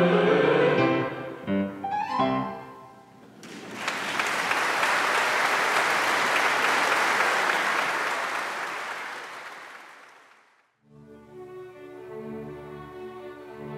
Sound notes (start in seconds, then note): 0.0 lively music continues; 3.4 audience applauding; 10.9 flowing music